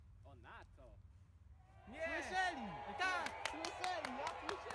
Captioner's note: booing